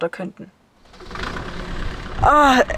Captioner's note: engine starts